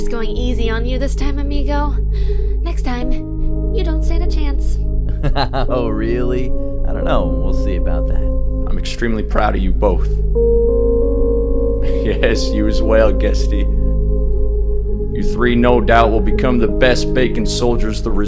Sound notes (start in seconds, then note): 5.1 Zayden laughs